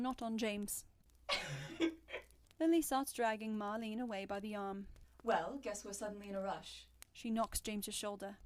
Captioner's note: Alice laughs